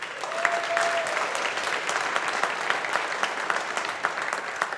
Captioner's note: audience applauding